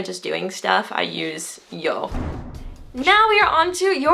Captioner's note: foreign language